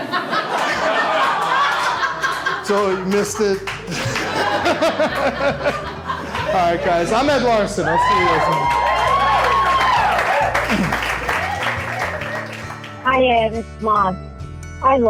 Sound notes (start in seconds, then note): 0.0 laughter; 7.8 applause